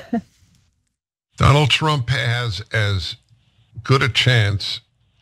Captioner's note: laugh